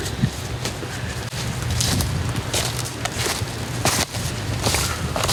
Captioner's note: leaves crunching